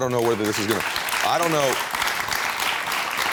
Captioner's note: audience applauds